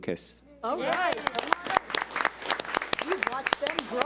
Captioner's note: audience applauds